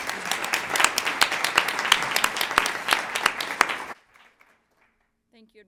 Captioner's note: applause